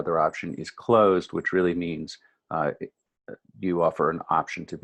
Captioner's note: stammers